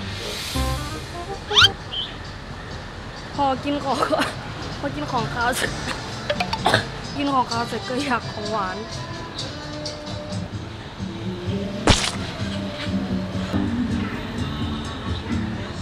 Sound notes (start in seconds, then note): 3.3 coughing